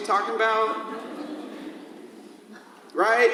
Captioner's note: audience laughs